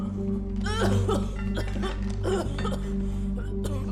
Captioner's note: coughing